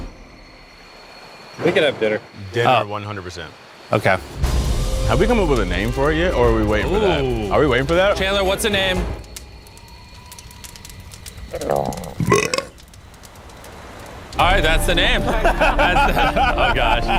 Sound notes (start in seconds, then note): 11.5 burps; 15.0 laughs